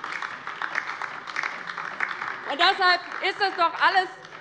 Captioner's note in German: Beifall DIE LINKE